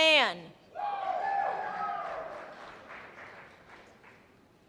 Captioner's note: cheers and applause